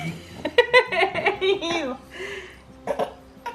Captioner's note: laughs